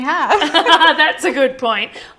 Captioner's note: laughing